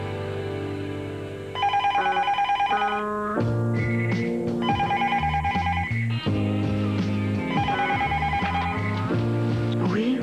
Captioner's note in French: Téléphone